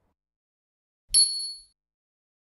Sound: bell dings

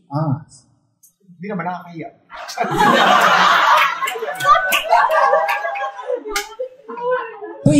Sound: laughter

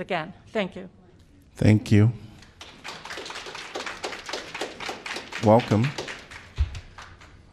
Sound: applause

